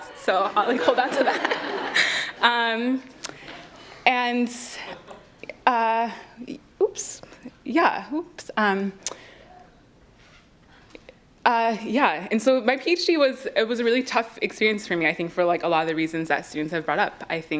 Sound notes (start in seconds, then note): 0.1 laughs; 1.7 audience laughs